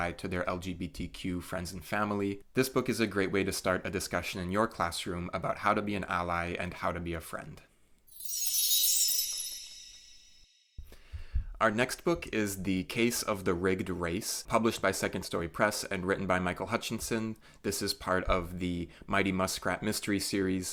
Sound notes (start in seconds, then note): 8.1 chime sound